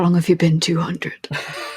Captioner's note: laughing